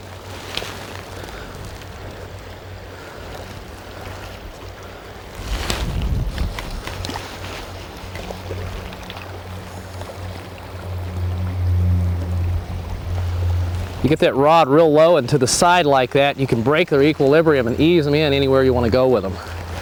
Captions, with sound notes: [Splash] you get that rod real low and to the side like that you can break their equilibrium and ease them in anywhere you want to go with them